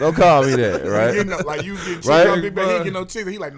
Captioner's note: laughing